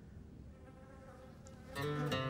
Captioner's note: fly buzzes; robust country music